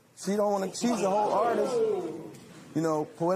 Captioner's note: spectators "Ohh"